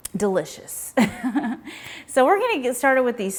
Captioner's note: chuckles